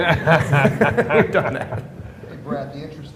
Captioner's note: laughter